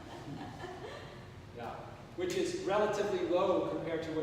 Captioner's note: chuckling